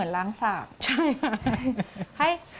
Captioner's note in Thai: เสียงหัวเราะ